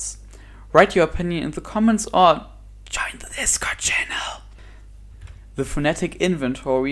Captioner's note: whispered